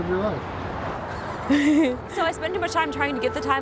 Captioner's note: laughing